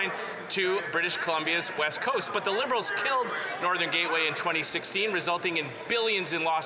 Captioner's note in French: voix de l'interprète